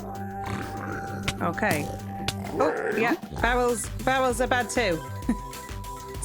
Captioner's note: laughing